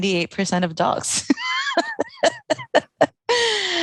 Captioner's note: laughing